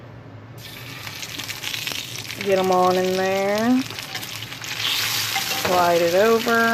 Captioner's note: sizzle